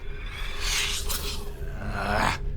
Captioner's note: suspicious whoosh